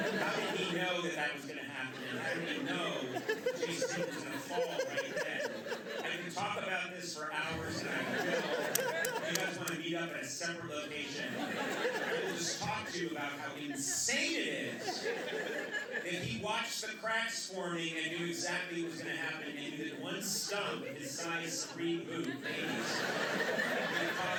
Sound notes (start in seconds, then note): 8.6 laughter; 23.3 laughter